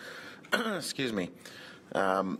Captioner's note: coughs